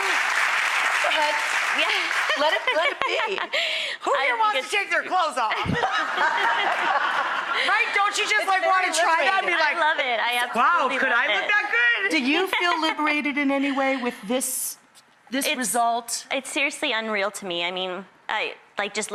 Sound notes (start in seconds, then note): 1.8 laughs; 5.4 laugh; 5.5 audience laugher